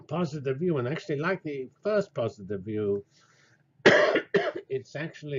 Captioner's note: cough